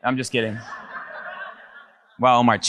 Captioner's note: audience laughs